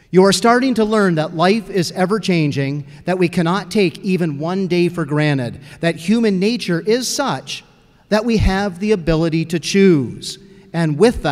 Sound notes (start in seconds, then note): none